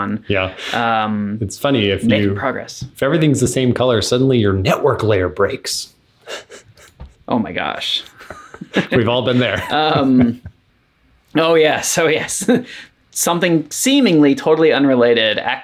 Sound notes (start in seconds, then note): 6.2 laughing